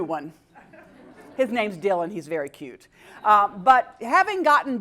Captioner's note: laugh